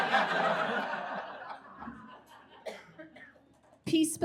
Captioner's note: audience laughs